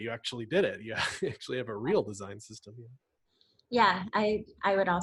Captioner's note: laughs